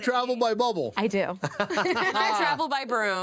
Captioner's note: laughing